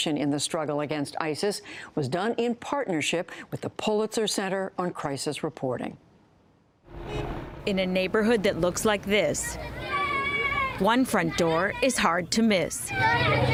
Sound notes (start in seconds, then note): 8.3 voice-over